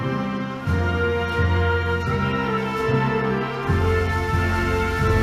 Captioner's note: none